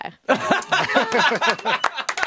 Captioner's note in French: rires